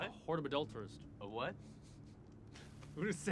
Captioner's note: Matt chuckles